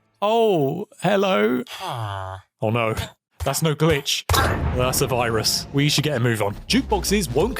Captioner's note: villager noise